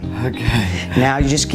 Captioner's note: chuckles nervously